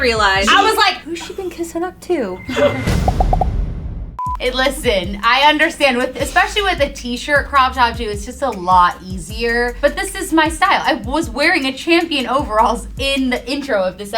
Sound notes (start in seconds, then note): 2.4 suspense sound effect